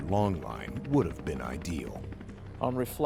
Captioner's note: voiceover